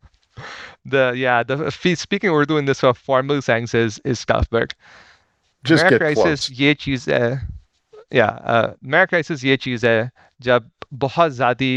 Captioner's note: speaking in Urdu